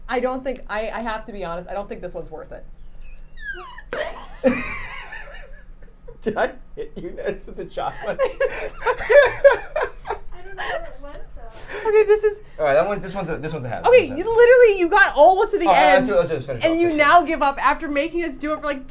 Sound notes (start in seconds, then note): 3.0 syringe popping; 9.4 all laughing